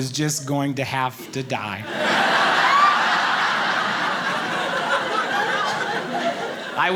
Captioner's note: audience laughing